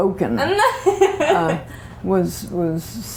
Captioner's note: laughter